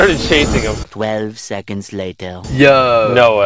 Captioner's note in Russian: Голос за кадром